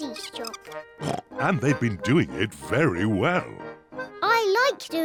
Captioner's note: oinks